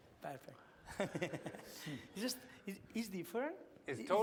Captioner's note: laughs